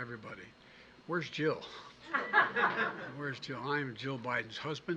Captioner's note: laughter